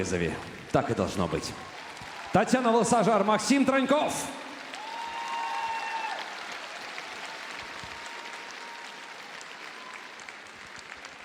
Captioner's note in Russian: аплодисменты